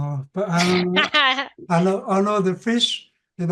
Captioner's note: laughing